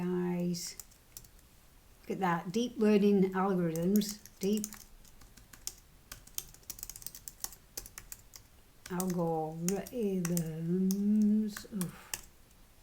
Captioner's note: typing